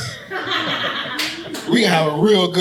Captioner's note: audience laughing